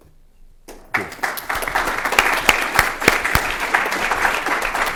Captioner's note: applause